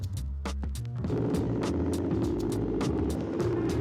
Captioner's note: engine idling